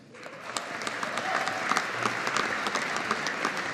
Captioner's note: audience applauding